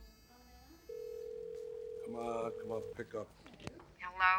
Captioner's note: telephone ringing